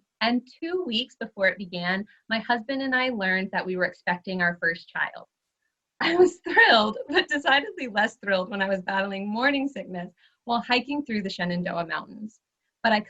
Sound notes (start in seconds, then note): 6.0 chuckles